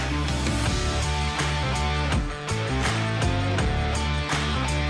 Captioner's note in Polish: Aplauz